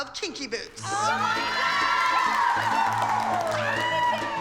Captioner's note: cheering